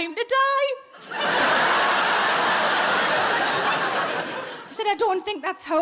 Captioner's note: audience laughing